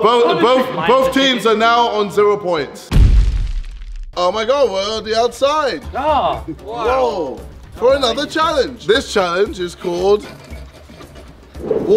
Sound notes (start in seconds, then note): 2.9 explosive sound